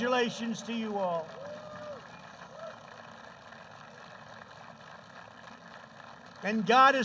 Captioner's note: applause